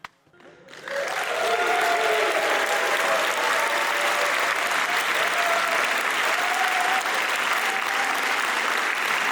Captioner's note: applause, cheers